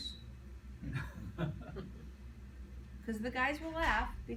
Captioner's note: men laughing